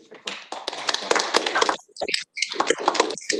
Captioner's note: applause